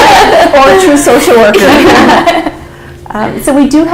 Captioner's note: laughter